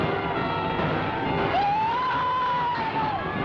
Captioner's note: screams